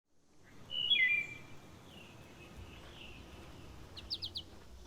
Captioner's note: birds twittering